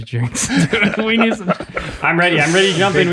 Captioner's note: group laughs